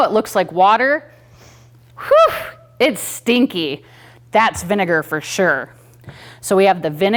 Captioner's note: sniffs